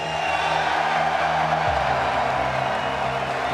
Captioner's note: people cheering